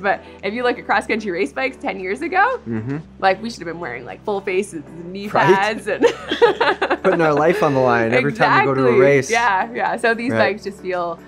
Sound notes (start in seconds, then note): 2.6 hums agreeingly; 5.3 all three laugh